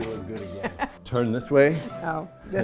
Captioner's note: laughs